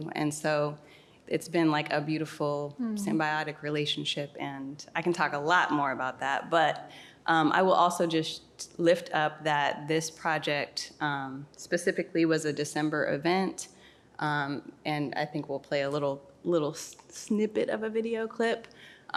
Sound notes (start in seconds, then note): none